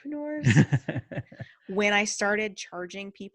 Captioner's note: laughs